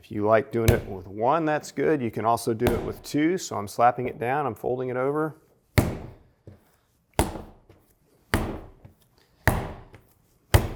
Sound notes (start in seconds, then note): 5.8 dough pounding